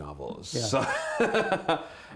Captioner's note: laughter